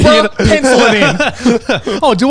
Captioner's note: laughing